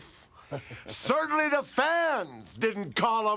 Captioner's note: Curt laughs